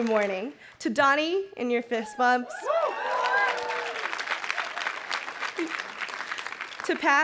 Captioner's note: crowd cheering and clapping